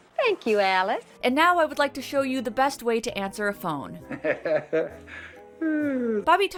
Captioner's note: laughing into phone